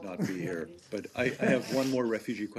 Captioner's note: laughter